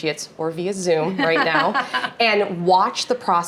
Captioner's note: laughing